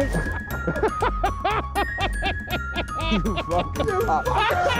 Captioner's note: laughing